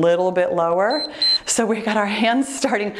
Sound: timer beeps

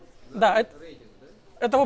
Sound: crowd

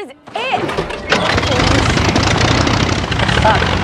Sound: plane rumbling

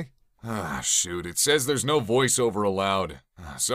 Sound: sighs

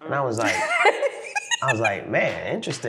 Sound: laughing

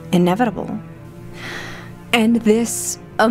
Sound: excited Breath

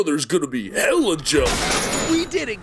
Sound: bangs; cash register rings

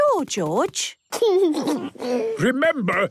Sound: George snorts; giggles

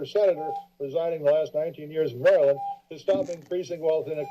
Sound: beeping

